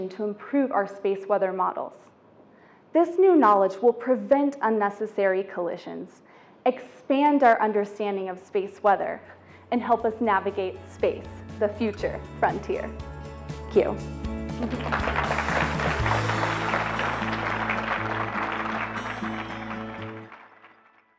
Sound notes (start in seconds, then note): 14.4 audience applauds; 16.8 upbeat music